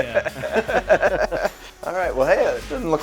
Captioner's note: laughing